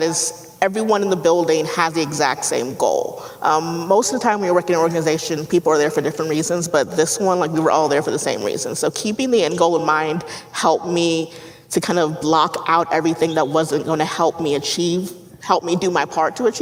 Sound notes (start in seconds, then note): none